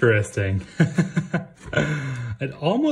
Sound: laughs

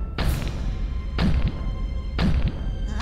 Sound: loud stomps

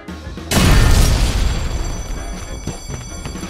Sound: boom

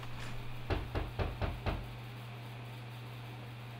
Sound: knock on door

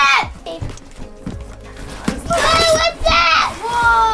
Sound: box ripping

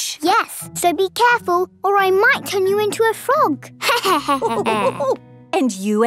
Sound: laughter

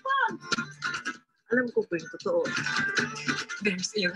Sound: speaking in foreign language

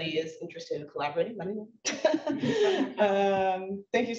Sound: laughs

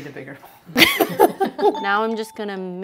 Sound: laughs

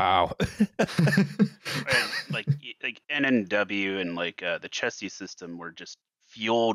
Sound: laughter

